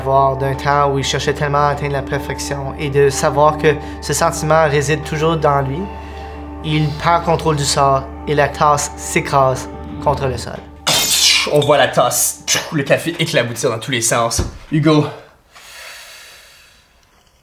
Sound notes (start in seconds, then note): 10.8 ceramic shattering